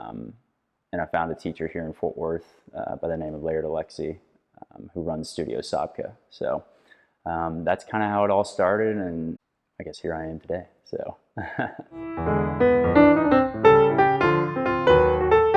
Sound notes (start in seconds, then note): 11.4 laughing; 11.9 soft piano music